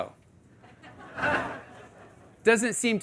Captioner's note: audience laughing